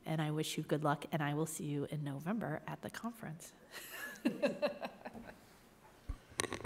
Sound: laughs

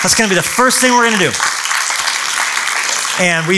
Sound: applause

